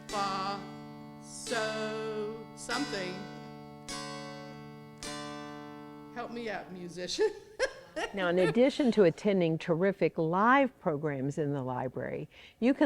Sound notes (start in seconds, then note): 3.8 smooth music; 7.2 laughing